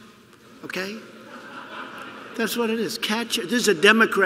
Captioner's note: laughter